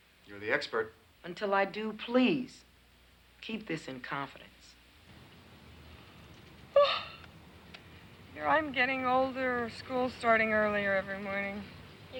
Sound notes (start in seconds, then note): 6.7 Jan yawns